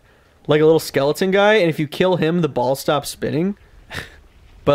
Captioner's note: scoffs